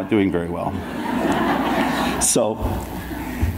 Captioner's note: audience laughs